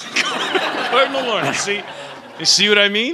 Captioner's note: laughing; laughter